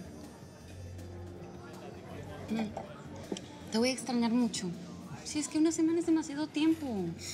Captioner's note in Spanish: murmullo de conversaciones